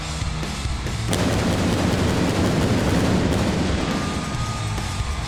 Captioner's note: pyro blasting